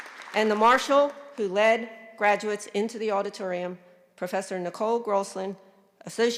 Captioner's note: applause